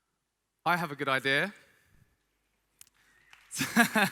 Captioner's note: laughs